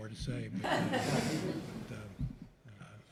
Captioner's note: laughter